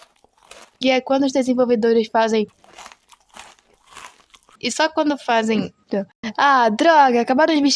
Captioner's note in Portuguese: crunch; Crunch Crunch Crunch